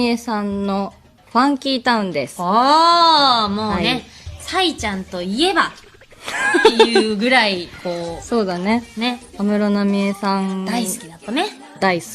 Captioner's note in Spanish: risas